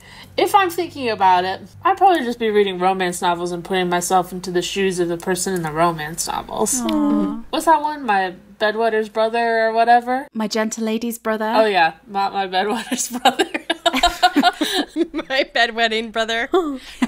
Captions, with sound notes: If I'm thinking about it, I'd probably just be reading romance novels and putting myself into the shoes of the person in the romance novels. Was that one, My Bed Wetter's Brother or whatever? - My Gentle Lady's Brother. - Oh yeah, not My Bed Wetter's Brother. (laughing) - My Bed Wetting Brother.